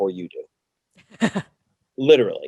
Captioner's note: laughs